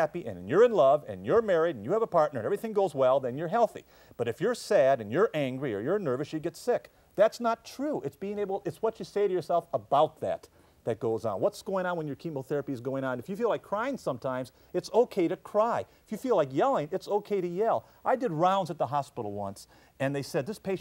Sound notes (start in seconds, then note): none